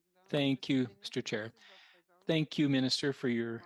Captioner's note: speaking French